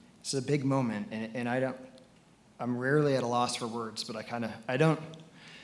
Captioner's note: none